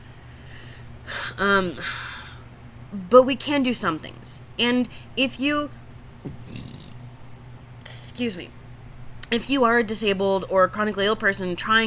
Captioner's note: burps